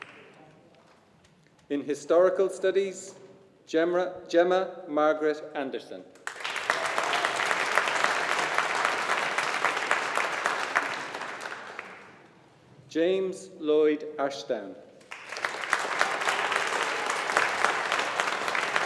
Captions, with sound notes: In Historical Studies, Gemma Margaret Anderson. (AUDIENCE APPLAUDING) James Lloyd Ashdown. (AUDIENCE APPLAUDING)